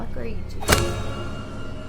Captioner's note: dramatic music; ninja star thudding; tense music